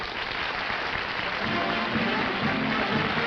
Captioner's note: applause